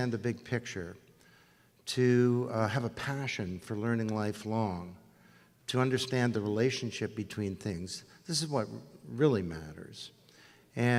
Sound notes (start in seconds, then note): none